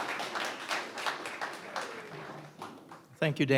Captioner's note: audience applauds